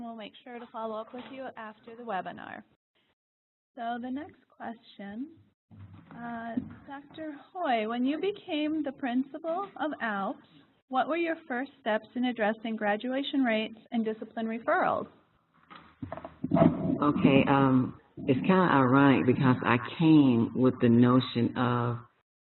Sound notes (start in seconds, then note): 4.9 pause